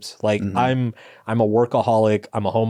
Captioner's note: none